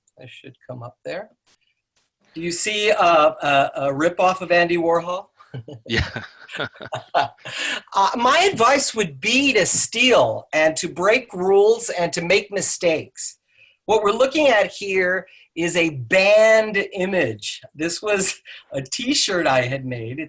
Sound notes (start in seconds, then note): 5.4 laughs